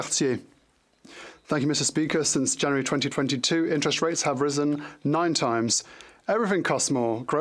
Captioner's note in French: voix de l'interprète